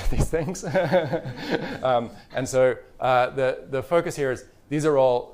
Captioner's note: laughs